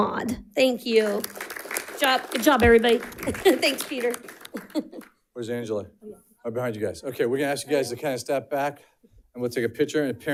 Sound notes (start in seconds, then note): 1.0 audience applauding; 4.4 chuckles